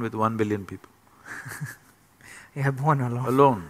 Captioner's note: laughs